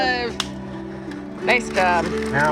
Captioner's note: slap